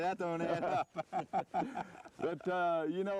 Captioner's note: laughter